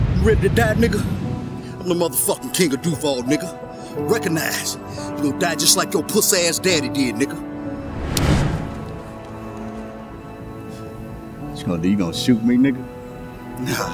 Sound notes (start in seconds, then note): 7.6 tense whooshing